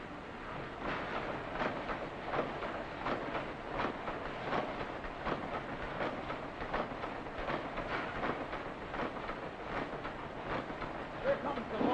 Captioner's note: factory noises